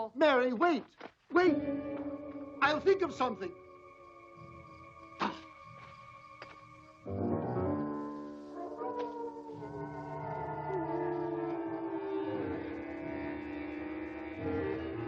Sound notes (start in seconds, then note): 7.2 dramatic music; 8.9 wolves howling